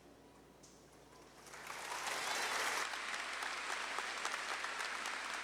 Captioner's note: audience clapping